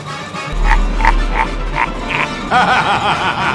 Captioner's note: laughing